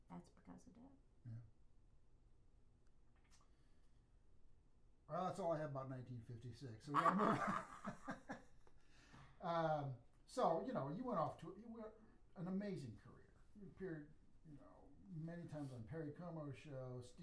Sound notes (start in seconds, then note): 6.9 both laugh